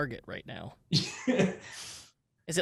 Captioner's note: laughs